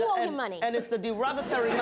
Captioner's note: laughter